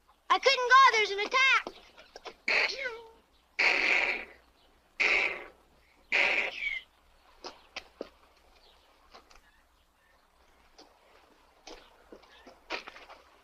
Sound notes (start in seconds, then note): 2.2 mimics gunfire